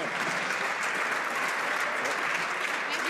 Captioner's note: some Applause